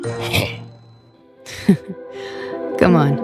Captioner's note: chuckles